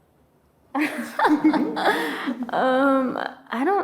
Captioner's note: laughing